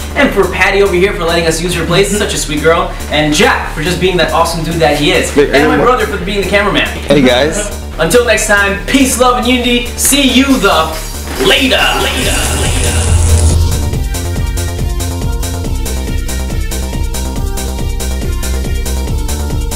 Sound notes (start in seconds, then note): 11.0 lights crackling; 13.9 dance music